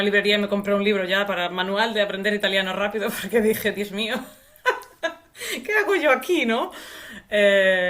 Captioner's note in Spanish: risas